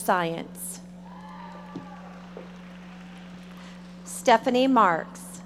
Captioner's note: audience applauding